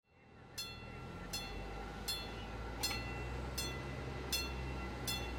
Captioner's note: train chimes